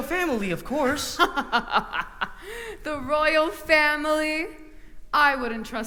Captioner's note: laughter